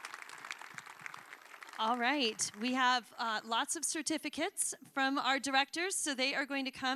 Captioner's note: applause